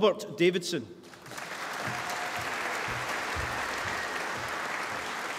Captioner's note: applause